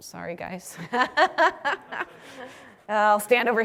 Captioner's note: laugh